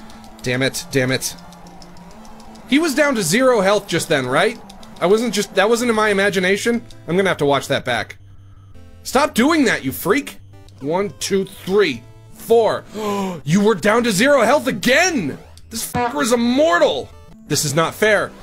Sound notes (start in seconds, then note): 12.9 gasps